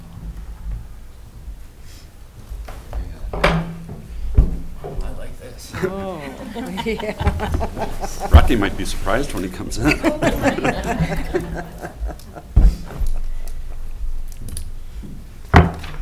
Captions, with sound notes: - I like this! - Oh, yeah! (laughs) - Rocky might be surprised when he comes in. (all laughing)